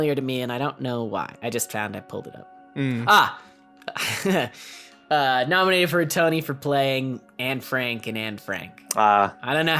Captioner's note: chuckle